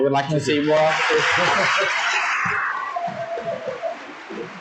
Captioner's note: audience applauds